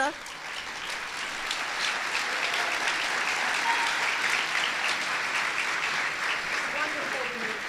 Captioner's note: applause